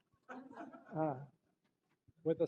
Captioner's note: laughter